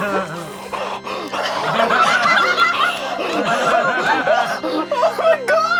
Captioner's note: all laugh